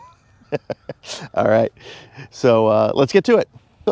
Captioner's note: laughing